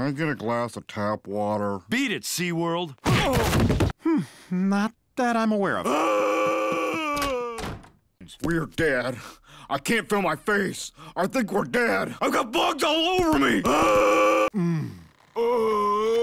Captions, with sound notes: Can I get a glass of tap water? - Beat it, Sea World. (whacks) - Not that I'm aware of. (screams) - It's weird, Dad, I can't feel my face. I think we're dead. I've got bugs all over me. (groans)